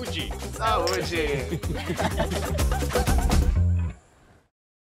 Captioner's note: laughter